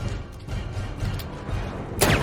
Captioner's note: gunshot